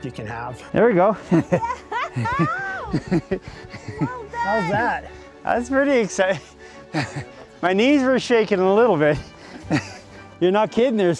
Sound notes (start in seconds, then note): 1.2 laughing; 2.8 chuckling